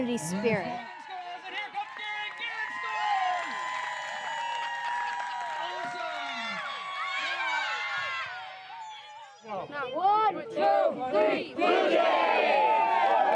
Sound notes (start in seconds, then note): 3.6 cheers